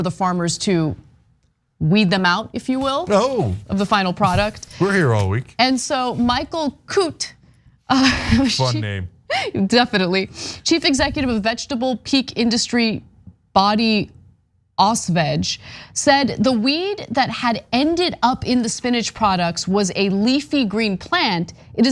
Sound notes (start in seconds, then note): 8.0 laugh